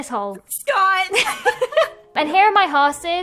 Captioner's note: both laughing